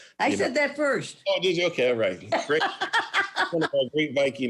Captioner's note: laughs